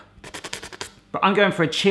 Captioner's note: tongue sucking